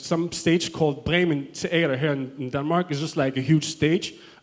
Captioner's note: foreign language